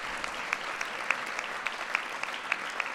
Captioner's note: applause